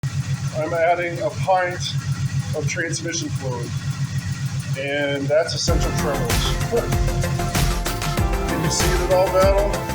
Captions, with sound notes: [engine idling] I'm adding a pint of transmission fluid. And that's essential tremors. [laughs] Can you see it at all Battle?